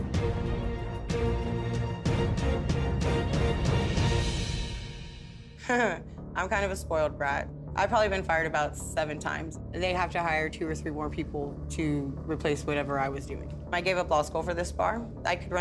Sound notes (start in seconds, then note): 0.1 tense music; 5.9 chuckling